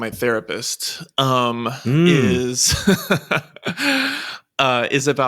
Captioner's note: laughs